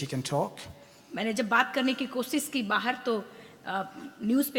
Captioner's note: speaks foreign language